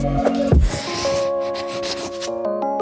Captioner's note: pen scribbling; bright music continues